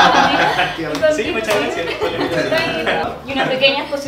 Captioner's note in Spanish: Risas